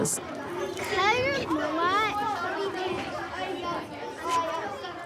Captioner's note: children chatter in background